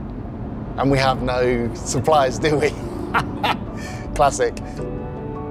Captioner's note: laughs